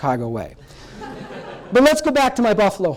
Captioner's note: laughter